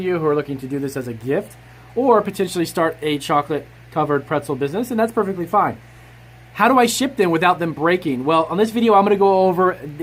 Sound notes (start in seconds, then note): none